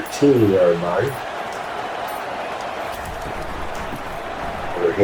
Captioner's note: crowd Noises